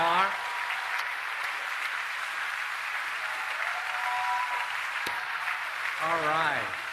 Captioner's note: applause